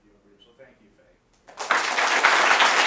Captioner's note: applause